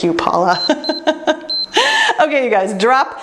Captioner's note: timer beeps; laughs